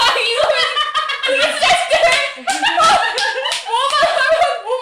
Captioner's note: laughing and clapping